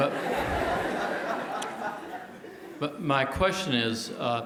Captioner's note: laugh